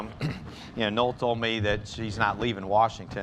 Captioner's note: laughter